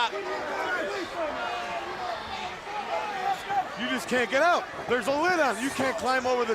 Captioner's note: crowd chatter